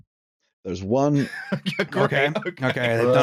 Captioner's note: laughing